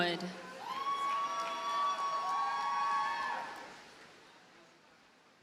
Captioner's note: audience cheers and applauds